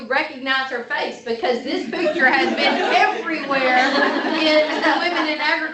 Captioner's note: laughter